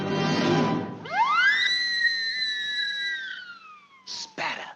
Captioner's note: air squealing